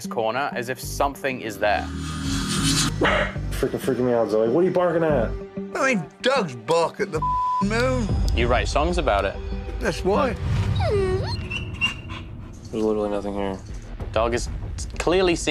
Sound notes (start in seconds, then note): 10.6 whimpers